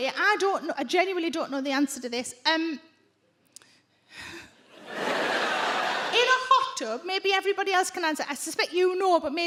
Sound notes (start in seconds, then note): 4.1 Sarah sighs; 4.7 audience laugh